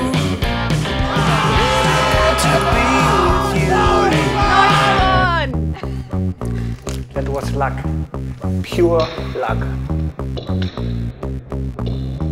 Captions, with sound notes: (loud cheering) - That was luck. Pure luck.